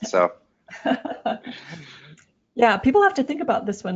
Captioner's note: laughs